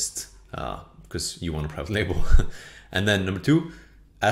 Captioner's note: chuckles